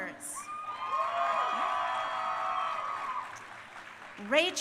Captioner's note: crowd cheering